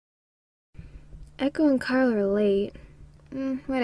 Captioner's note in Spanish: Se abre la puerta